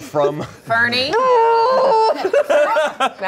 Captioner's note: yells; everyone laughs